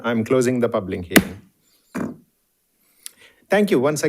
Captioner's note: hammer slamming